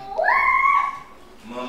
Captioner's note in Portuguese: grito de comemoração